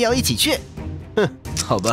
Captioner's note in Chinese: 嗤笑